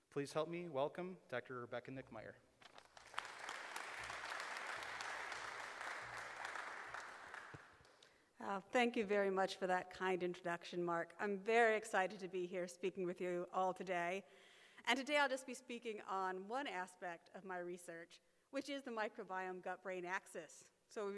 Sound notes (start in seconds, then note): 2.7 audience applauds